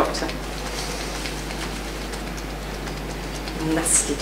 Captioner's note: fingers tapping